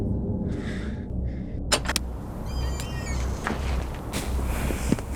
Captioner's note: door creaking